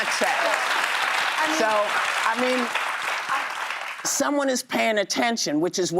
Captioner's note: applause